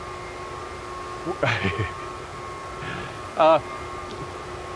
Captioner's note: Elon chuckles